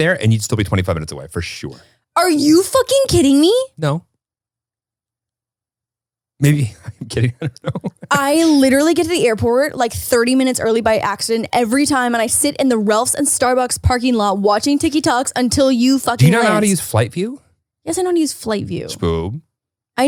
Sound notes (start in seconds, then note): 6.5 chuckles